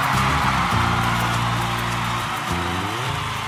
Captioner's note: cheering crowd